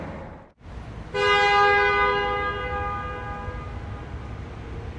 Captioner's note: horn honking